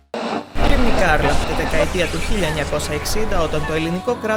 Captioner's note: radio sounds